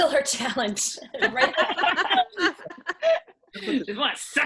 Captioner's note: laughing